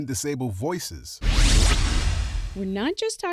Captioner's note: electronic whoosh